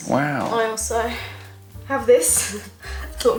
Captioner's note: chuckle